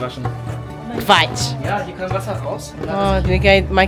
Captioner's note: speaking German